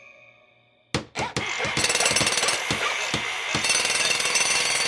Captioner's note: clatter! drill!